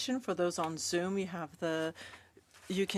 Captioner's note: speaking French